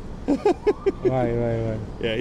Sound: laughs

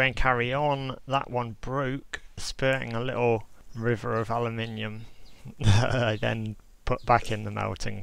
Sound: laughs

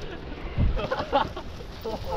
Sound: laughs

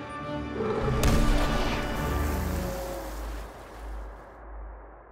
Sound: Mosasaurus roaring

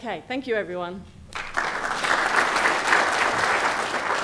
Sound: applause

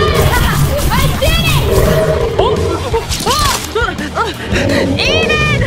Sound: cure blaster blasting; laughing

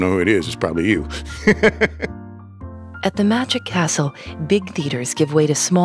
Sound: laughs

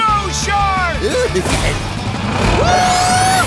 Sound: giggling

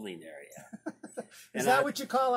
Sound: laughs

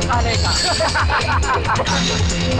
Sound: laughing

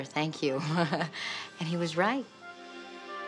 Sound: chuckling

